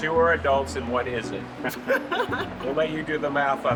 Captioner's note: laughing